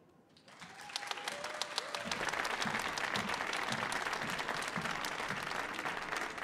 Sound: audience cheering and applauding

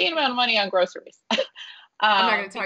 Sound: laughing

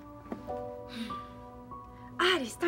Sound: sigh

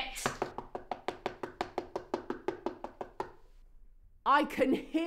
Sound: door knocking

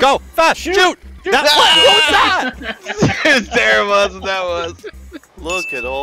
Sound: screaming

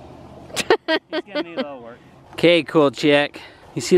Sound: laughing

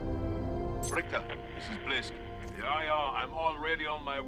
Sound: radio

